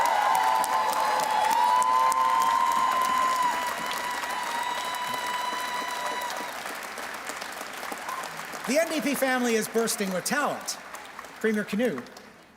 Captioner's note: cheers and Applause